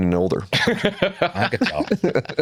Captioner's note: laughter